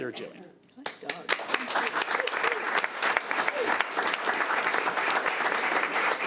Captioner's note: audience applauds